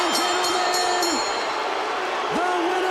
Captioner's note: bell ringing; crowd cheering